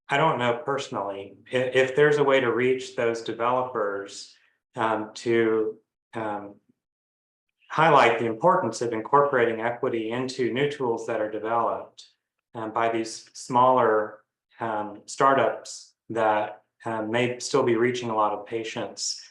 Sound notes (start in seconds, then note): none